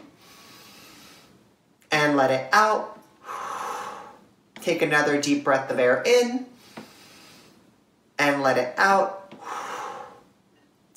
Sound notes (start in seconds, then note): 0.1 inhale; 3.2 exhale; 6.6 inhale; 9.3 exhale